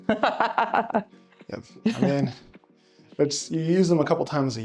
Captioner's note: laughs